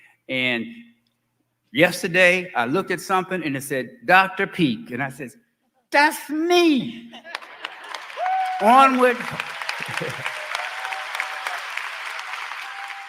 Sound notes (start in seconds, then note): 7.3 applause; 8.6 laughing